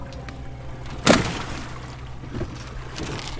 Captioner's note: water splashing